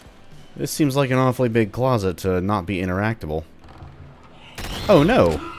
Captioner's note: boom